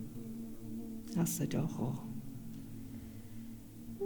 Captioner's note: In Mi’kmaq